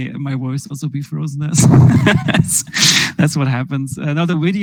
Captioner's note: laughs